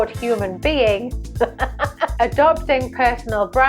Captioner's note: laughing